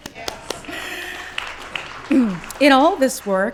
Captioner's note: applause